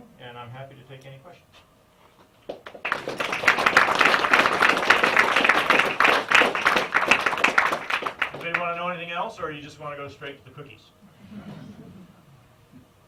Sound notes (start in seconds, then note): 2.4 applause